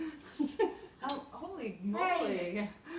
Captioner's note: laughs